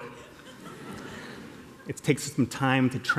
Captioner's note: laughter